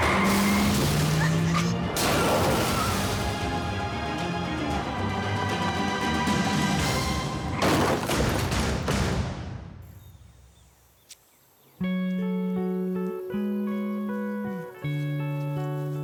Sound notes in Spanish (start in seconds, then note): 1.9 estruendo; 4.1 chirrido de gomas; 9.4 estruendo